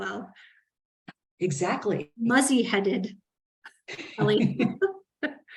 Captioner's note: laughs